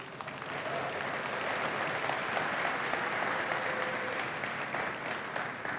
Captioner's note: cheering and applause